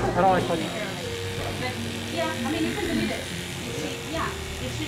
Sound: buzzing

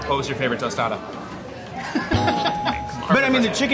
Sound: laughing; bell dings

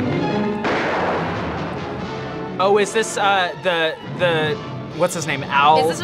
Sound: dramatic music; gun fires

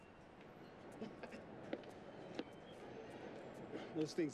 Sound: coughing

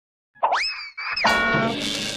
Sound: bonks

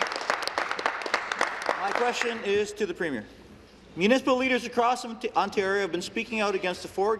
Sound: applause

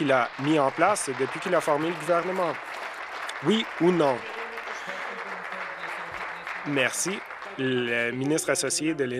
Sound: applause

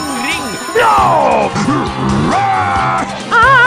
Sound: Bowser noises

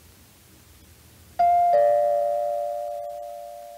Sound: doorbell ringing

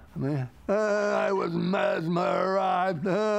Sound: laughs

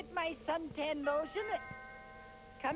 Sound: doorbell chimes

